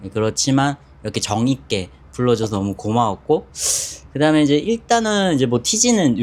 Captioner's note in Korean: 콧방귀